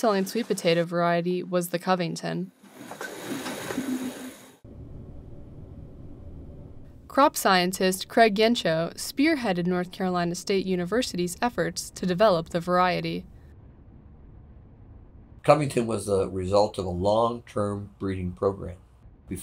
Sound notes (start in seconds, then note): 2.9 machine whirring; 2.9 sweet potato clattering